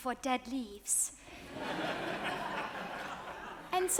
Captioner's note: audience laughs